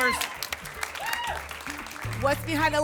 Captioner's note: applause and cheering